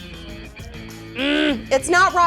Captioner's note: groans